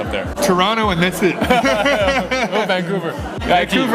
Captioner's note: both laugh